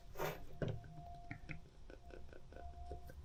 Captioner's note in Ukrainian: сопіння